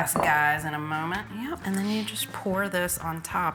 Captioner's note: dish tapping